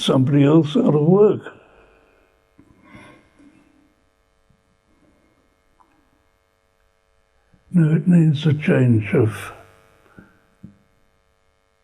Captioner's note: pauses for 6 seconds